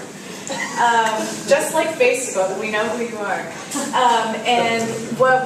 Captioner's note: laugh